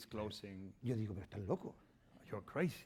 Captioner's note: speaking spanish